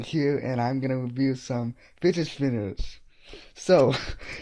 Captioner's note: nervous laugh